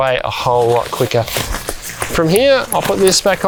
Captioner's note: hammer tapping